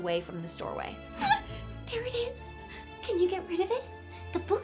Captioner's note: gasps